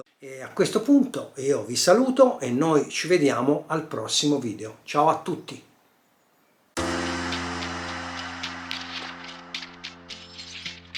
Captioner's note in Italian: Applauso